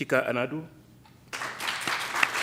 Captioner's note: applause